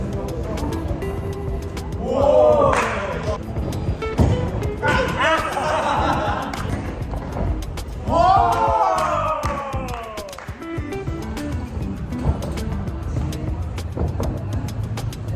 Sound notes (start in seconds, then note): 4.4 laughing